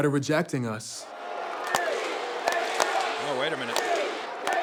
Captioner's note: applause